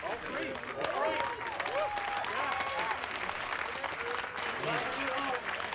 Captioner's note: all cheering and clapping